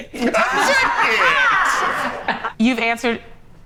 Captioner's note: group laughs